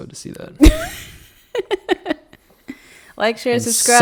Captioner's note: laughing